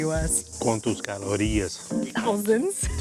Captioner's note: in Portuguese